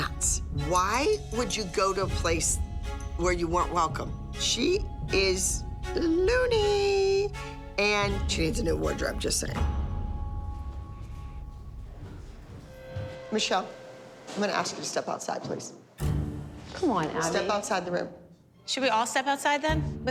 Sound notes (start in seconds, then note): none